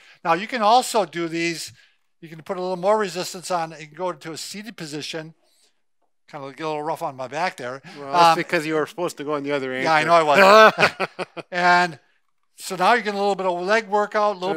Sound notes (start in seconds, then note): 9.9 chuckles